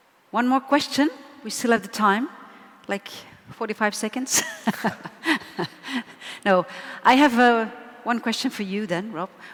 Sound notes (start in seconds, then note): 4.7 laughs